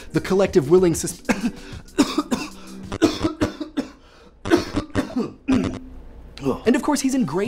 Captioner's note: coughs